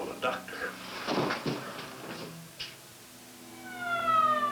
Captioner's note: footsteps; ambulance siren blaring